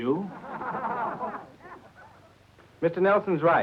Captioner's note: doctors all laugh